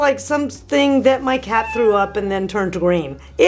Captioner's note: cat meows